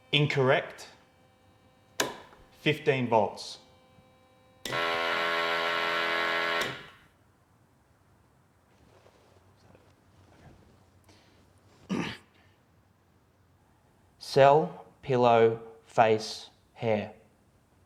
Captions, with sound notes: Incorrect, 15 volts. (machine blaring) - Cell pillow, face hair.